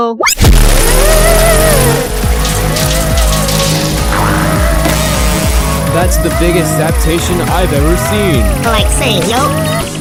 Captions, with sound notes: [zapping] [zapping] That's the biggest zaptation I've ever seen! [zapping] Like same yo.